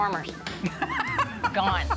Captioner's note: laughing